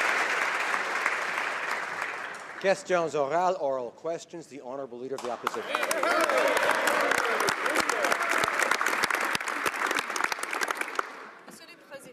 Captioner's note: applause